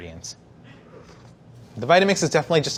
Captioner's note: slurping